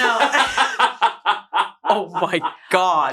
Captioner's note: laughs